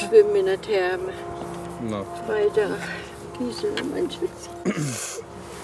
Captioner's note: sobs